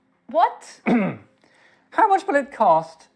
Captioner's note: clears throat